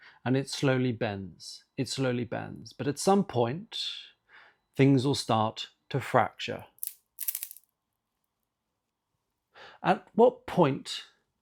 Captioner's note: snap